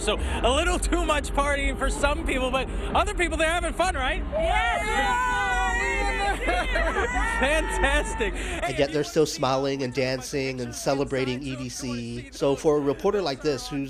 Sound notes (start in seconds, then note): 4.3 cheering